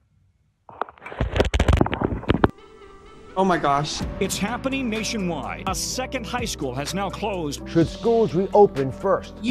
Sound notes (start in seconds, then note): 0.6 readjustment crackling